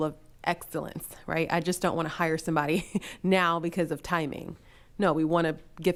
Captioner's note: chuckles